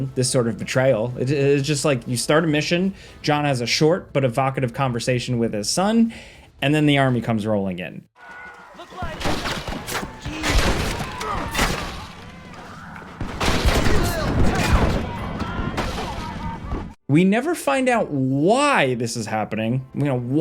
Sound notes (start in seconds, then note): 9.0 guns firing; 13.5 characters screaming